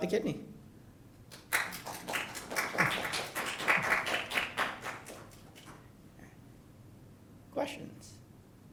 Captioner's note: applause